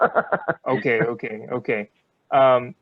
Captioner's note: laughter